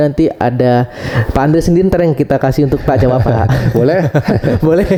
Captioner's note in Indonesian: tertawa